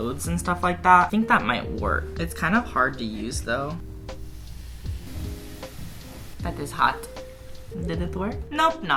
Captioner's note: sszszsss